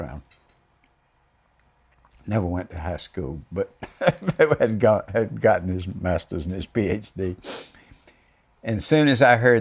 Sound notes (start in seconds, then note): 3.8 laughs